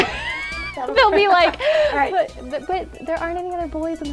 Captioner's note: laughs